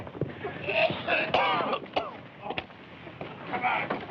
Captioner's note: coughing